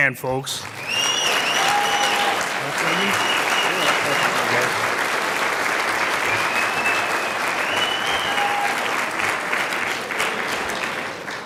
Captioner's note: sound of applause from the audience